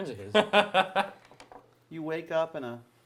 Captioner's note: laughing